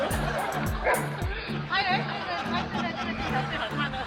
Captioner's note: audience laughing; dog barks